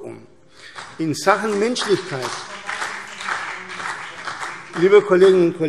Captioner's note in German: Beifall CDU und vereinzelt BÜNDNIS 90/DIE GRÜNEN